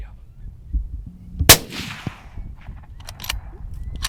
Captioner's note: gun shot